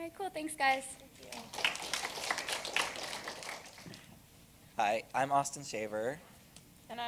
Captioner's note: applause